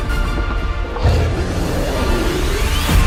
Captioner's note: monster roars